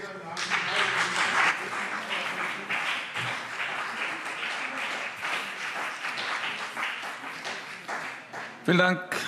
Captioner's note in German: Beifall BÜNDNIS 90/DIE GRÜNEN und CDU